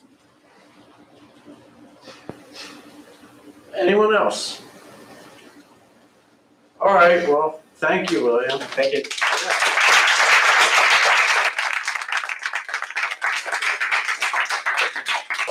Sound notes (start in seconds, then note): 10.0 applause